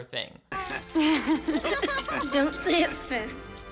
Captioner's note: everyone laughing